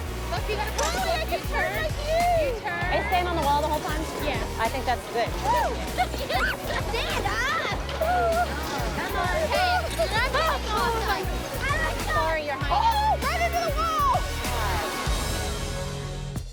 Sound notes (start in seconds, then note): 5.7 laughs